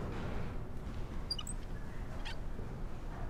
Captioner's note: wheels squeaking